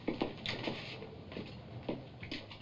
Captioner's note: footsteps; door opens